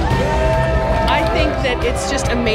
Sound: people cheering

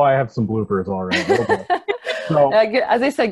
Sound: laughs

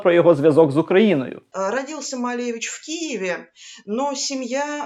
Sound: in russian

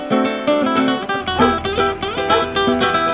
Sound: dog barking

